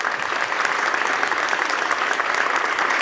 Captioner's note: applause